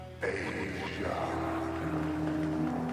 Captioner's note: ghostly Voice